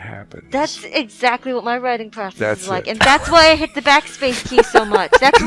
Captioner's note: laughing